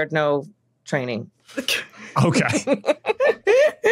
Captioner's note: laughing